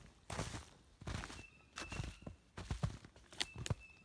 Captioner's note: blue jays calling